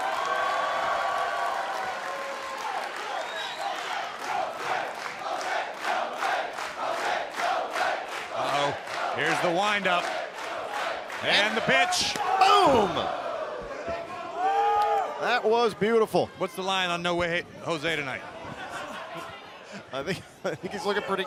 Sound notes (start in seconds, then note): 3.7 crowd chatter; 5.5 crowd chatter; 8.8 crowd cheering; 15.2 crowd cheering; 19.8 crowd chatter